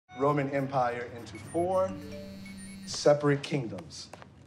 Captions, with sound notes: -Roman Empire… -[phone dings] -…into four separate kingdoms. -[phones vibrating, dinging]